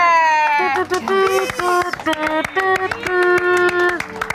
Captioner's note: mouth trumpet